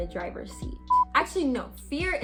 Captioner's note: beep